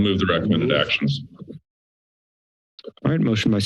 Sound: silence

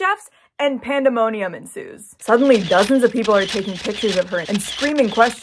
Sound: camera shuttering

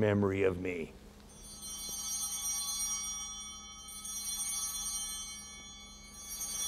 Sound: chimes ringing

